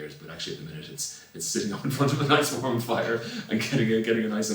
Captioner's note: laughs